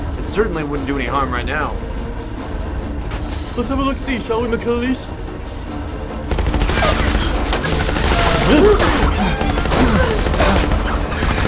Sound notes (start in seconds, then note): 6.2 guns firing; 8.2 chickens clucking